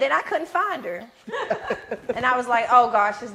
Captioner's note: others laughing